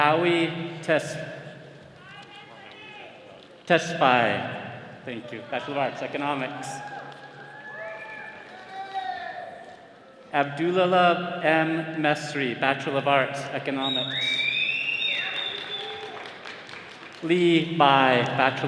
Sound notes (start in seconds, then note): 13.8 attendees whistling